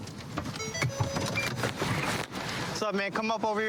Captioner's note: car notification bell dings